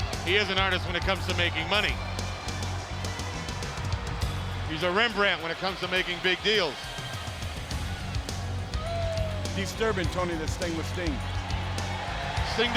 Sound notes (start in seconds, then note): 6.9 crowd cheering; 7.3 upbeat rock music